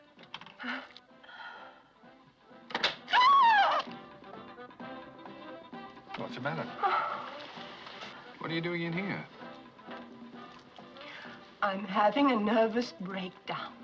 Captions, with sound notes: - [ Door Opens ] - [ Screams ] - What's the matter? - [ Sighs ] What are you doing in here? I'm having a nervous breakdown.